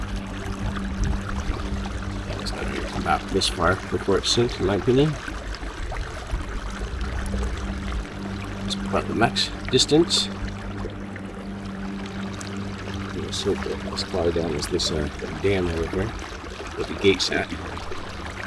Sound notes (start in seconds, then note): 0.3 water lapping gently; 5.6 water lapping gently; 10.9 suspenseful music continues; 10.9 water lapping gently; 18.2 suspenseful music continues; 18.2 water lapping gently